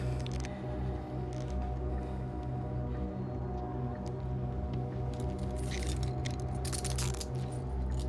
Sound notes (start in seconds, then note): 5.1 handcuffs lock